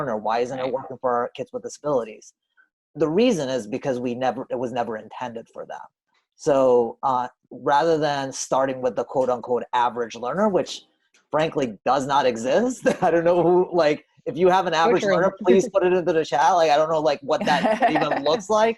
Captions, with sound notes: or why isn't it working for our kids with disabilities?" The reason is because it was never intended for them. So, rather than starting with the "average learner," which, frankly, does not exist – [laughs] I don't know who – like, if you have an average learner, please put _____ _____ _____ I don't know, like, what that even looks like.